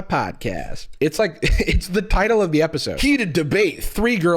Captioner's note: chuckles